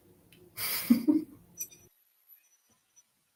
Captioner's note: chuckles